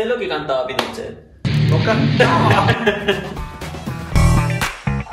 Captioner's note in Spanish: risas